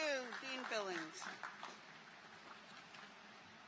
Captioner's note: applause